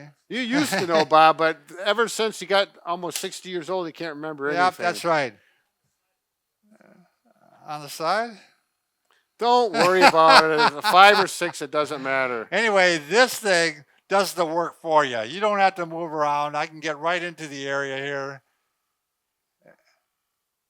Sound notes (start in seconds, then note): 9.7 laughing